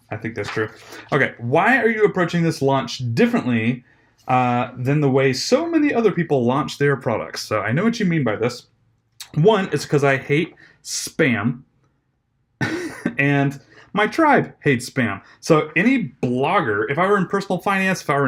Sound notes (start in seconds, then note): 12.6 chuckles